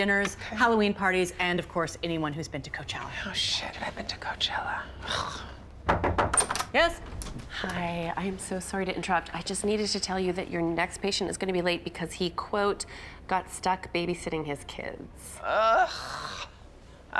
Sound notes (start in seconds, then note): 5.8 knocking